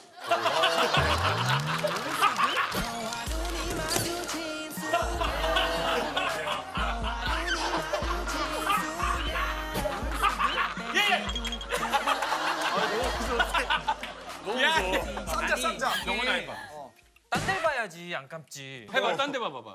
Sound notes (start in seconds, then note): 7.0 heheh